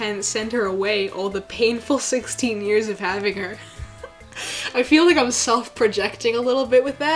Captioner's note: laughs